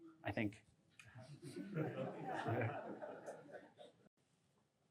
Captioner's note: laughter